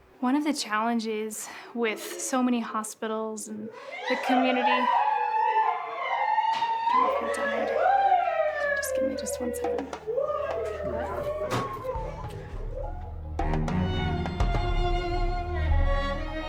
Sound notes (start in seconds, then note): 4.8 crying